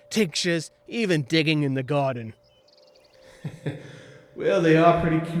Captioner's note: chuckling